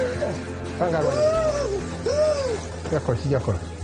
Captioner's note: actor screams